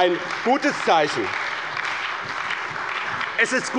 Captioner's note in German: Beifall bei dem BÜNDNIS 90/DIE GRÜNEN, der CDU, der SPD und der FDP